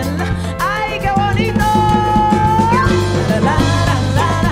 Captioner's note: speaking in Spanish